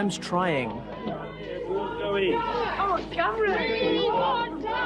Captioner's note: crowd chatter